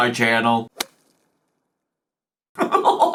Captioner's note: golf ball thuds; laughs